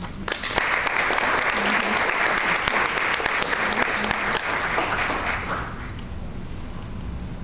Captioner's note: crowd clapping